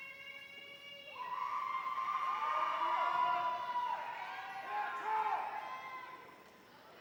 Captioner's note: audience cheering